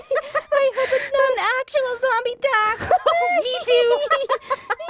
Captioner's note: laughing; laughing